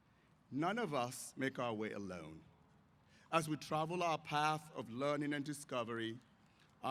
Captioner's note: none